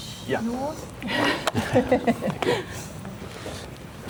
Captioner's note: chuckles